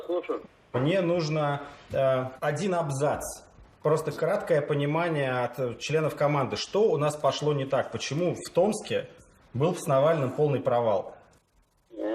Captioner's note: speaking Russian